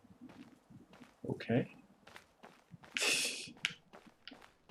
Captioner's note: laughs softly